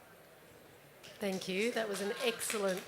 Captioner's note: applause